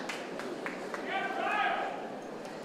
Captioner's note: applause